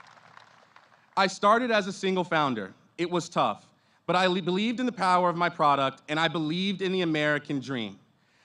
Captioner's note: applause